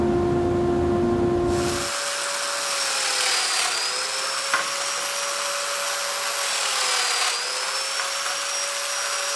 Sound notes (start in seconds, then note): 1.5 driller whirring